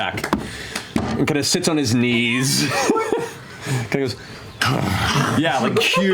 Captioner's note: sighs; laughs